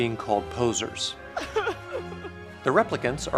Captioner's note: crying